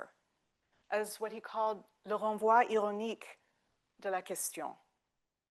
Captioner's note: speaking French